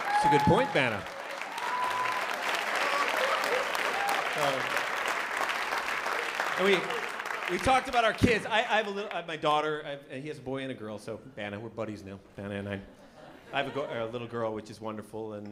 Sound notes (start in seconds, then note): 2.6 applause